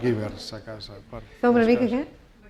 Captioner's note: speaking spanish